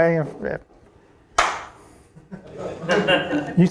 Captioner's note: a single clap; audience laughing